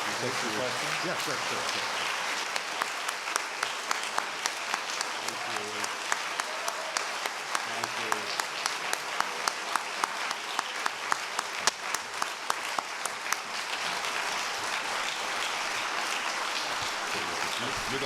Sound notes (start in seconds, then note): 2.6 applause